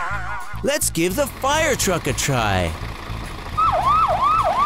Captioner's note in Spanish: Sirena y bocina